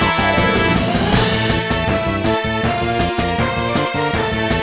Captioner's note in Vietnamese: Zzzzz